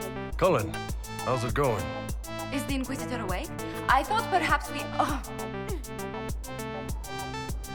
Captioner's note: gasps